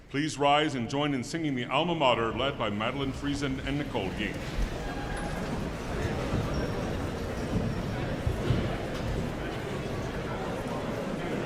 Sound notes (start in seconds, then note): 6.5 audience chattering distantly